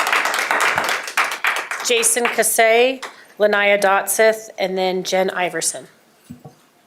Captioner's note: applause